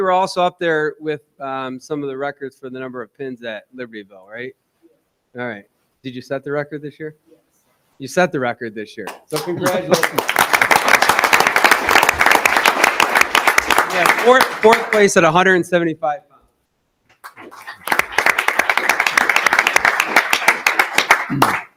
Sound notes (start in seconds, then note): 9.1 audience applauding; 17.2 audience applauding